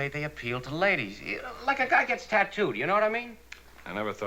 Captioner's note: stammers